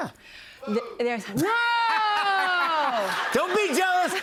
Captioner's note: laughter